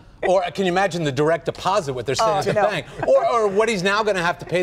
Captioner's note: laughter